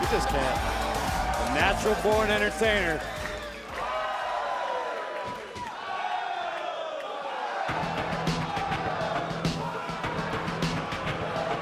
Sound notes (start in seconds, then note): 3.2 crowd cheering; 9.2 crowd cheering